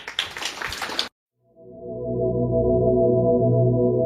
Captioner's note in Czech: Potlesk